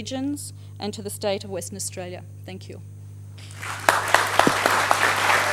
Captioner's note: applause